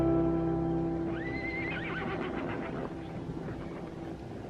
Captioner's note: horse neighs